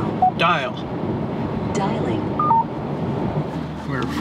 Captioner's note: electronic trill